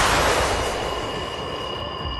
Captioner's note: zap